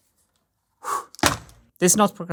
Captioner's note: exhales